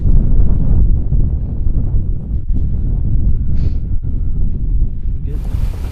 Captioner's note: heavy wind